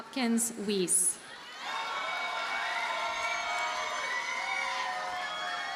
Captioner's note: audience cheers and applauds